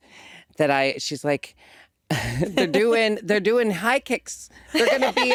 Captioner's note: chuckles